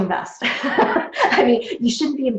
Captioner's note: laughs